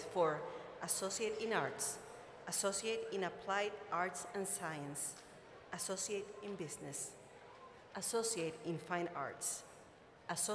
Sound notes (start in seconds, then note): none